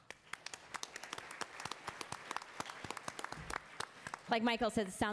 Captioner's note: attendees applauding